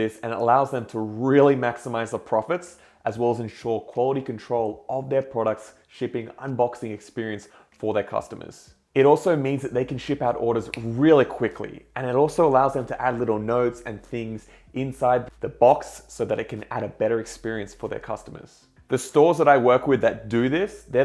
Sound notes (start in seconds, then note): 10.6 clicks